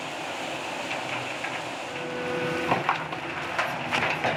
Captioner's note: engine rumbling